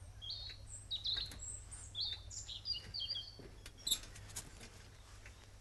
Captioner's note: birds singing